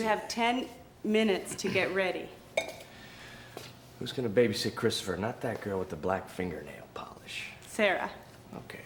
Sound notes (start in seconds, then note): 2.5 glass clanks